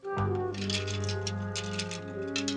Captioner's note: glass breaking